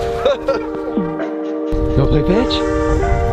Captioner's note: laughs